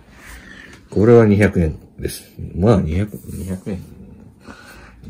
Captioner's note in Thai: บ่นๆๆ